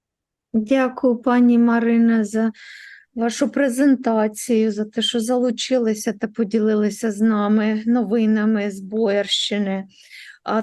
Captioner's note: foreign Language